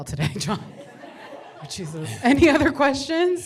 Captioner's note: laughter